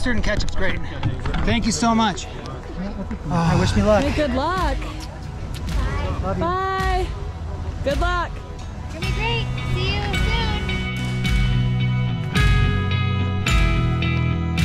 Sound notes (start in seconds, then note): 4.9 lips smacking; 11.2 footsteps crunching